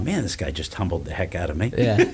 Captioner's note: laughs